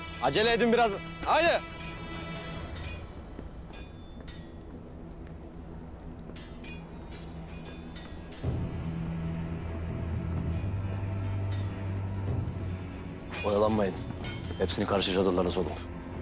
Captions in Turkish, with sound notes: Acele edin biraz, haydi. [Kılıç sesleri] Oyalanmayın. Hepsini karşı çadırlara sokun.